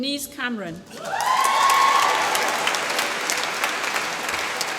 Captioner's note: applause